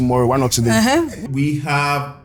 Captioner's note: laughs